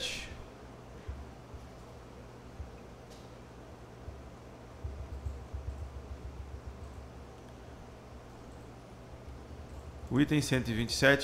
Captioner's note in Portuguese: Silêncio